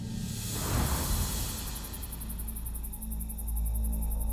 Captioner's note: insects chirping